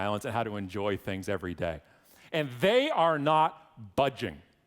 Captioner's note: none